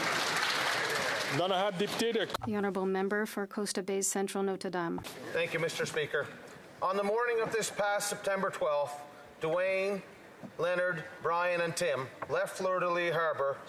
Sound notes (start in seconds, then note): 3.1 some Applause